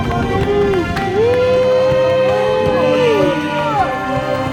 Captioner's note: the guys cheering for me